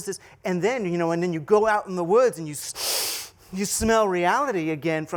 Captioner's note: sniffing